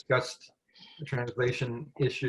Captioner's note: french